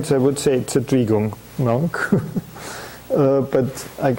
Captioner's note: chuckling